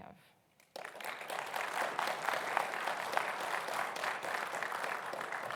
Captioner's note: audience applauds